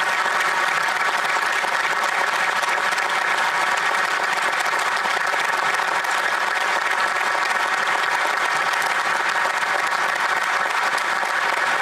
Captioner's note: applause